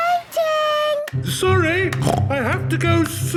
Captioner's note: snorts